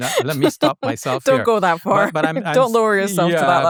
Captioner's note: chuckles